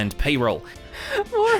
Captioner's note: laughs